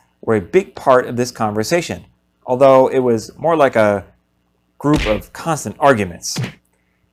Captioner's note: punching sounds